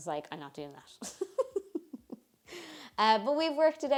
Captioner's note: laughs